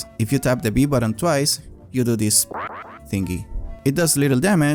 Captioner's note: sound effect